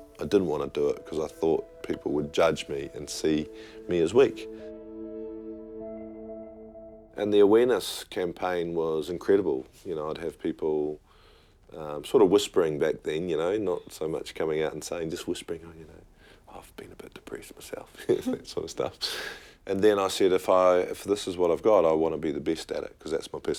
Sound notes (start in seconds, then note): 16.5 whispering; 18.5 laughing